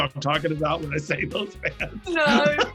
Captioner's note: laughs